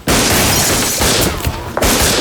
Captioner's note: gunshots booming; glass shattering